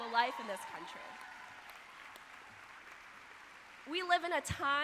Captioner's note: audience applauding